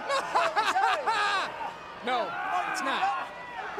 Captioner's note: laugh